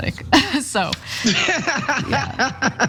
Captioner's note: laugh